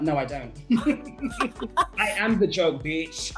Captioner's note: laughter